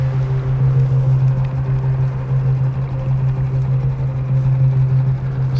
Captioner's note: boat engine chugs